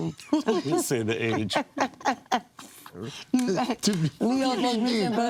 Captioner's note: laughing